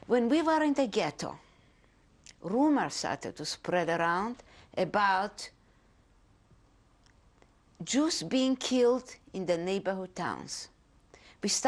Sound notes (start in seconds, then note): 5.7 pauses for 3 seconds